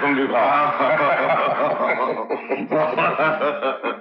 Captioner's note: Laughing